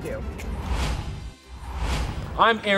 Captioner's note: upbeat music; logo whooshing